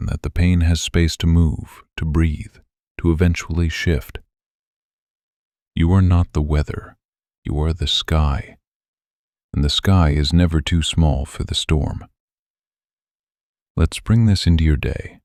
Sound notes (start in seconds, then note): 8.3 pause